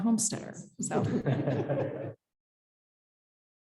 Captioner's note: chuckling